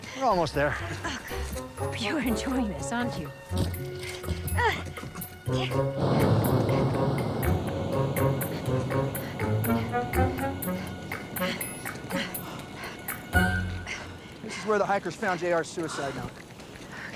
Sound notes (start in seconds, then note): 4.0 Prudence grunting; 9.2 Prudence panting